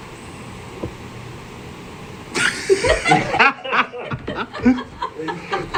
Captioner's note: laughter